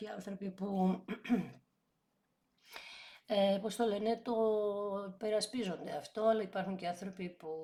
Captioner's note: dry cough